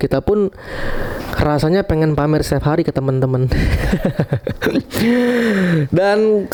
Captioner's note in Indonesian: tertawa